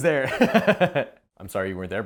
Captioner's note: laughs